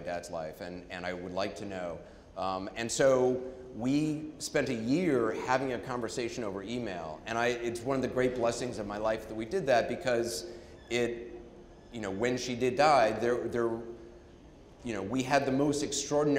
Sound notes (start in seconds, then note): none